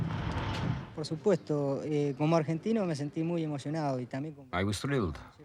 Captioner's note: man speaking in foreign language